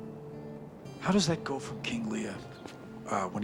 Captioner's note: none